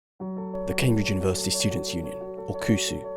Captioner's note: voiceover